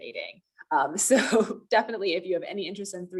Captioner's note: laughter